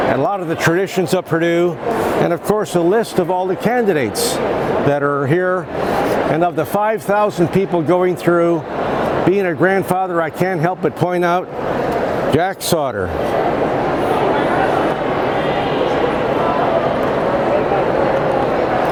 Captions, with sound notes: and a lot of the traditions Purdue, and of course a list of all the candidates that are here and of the 5,000 people going through, being a grandfather I can't help but point out Jack Sautter. (indistinct crowd chatter)